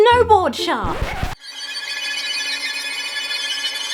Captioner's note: record scratches to a halt; ominous music